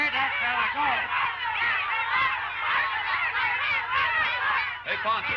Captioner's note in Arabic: نساء يصرخن بشكل غير واضح